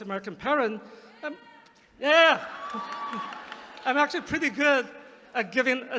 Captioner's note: applause